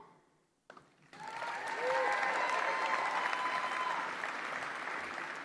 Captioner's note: applause